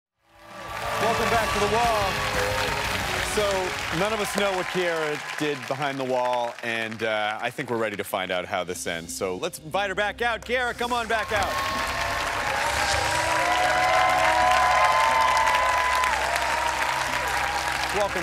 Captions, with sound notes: [cheers and applause] - Welcome back to "The Wall." So none of us know what Kieara did behind the Wall, and I think we're ready to find out how this ends. So let's invite her back out. Kieara, come on back out. [cheers and applause] - Whoo! - Welcome back.